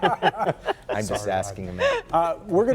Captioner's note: laughter